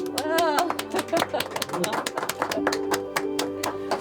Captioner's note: joyful music; crowd clapping